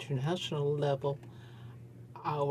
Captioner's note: speaking French